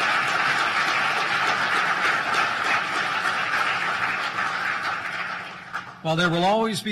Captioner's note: applause